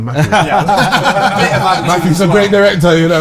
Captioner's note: group Laughter